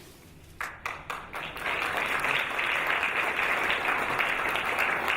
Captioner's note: audience applauding